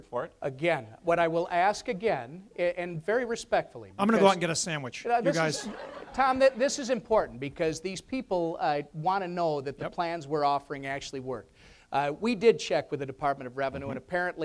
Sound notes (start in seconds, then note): 5.3 audience laughs